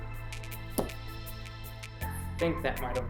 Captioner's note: quiet popping